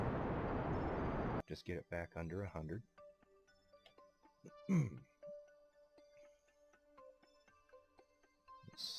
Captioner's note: clears throat